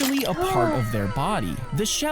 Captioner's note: gasps